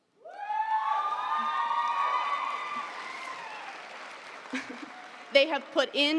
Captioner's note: audience cheering; audience applauding